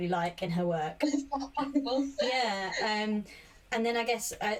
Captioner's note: laughs